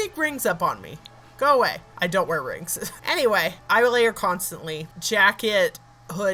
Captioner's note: laugh